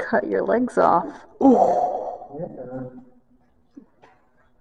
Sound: sounds of empathy pain

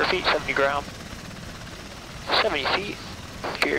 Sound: blades whirring

